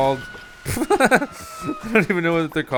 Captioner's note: laughs